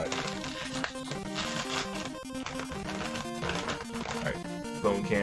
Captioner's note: pop